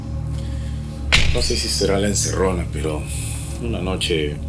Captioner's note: door slam